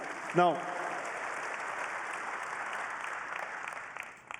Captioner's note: applause